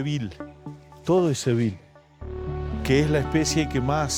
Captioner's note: speaking Spanish